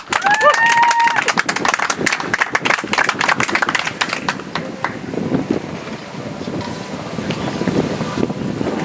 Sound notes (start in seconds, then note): 3.5 audience applauds